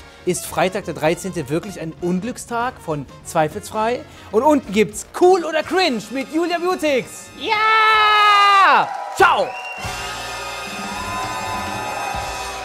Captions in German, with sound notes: "Ist Freitag der 13. wirklich ein Unglückstag?" Von "zweifelsfrei.". Und unten "Cool oder Cringe" mit Julia Beautx. Ja! (Jubel) Ciao! (Dynamische Musik)